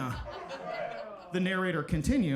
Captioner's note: audience laughing